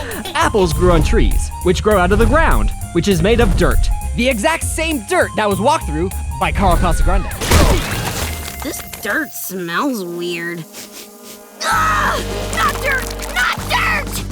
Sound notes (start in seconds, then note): 10.6 sniffing